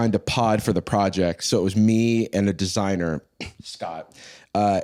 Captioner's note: clears throat